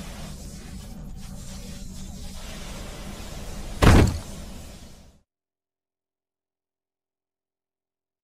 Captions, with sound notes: - Now will you shoot me with your ray gun? (thump)